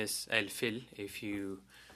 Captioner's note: speaking French